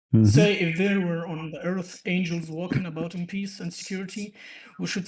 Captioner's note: clears throat